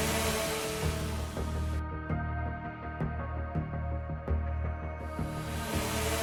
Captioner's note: drones continue buzzing; tense music continues